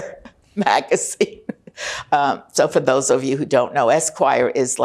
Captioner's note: laughing